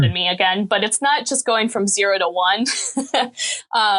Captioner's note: laughing